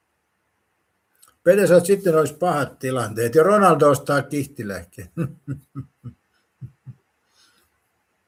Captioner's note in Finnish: naurua